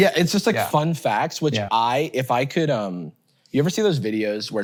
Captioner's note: none